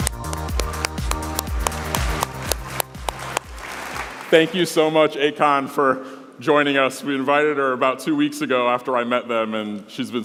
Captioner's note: applause